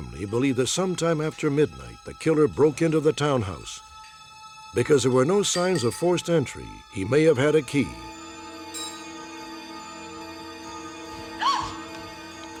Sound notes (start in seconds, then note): 11.2 gasps